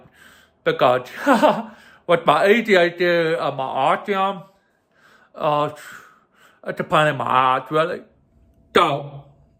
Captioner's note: chuckles wryly